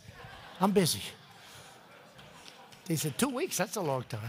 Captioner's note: laughter